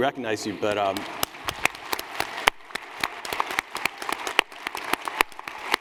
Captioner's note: applause